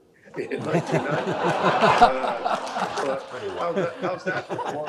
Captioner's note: all laughing